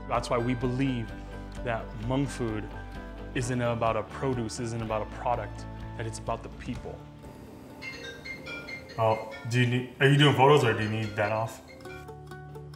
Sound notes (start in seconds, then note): 7.2 ringing phone; 12.5 guitar world music